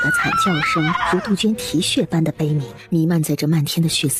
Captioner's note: cuckoo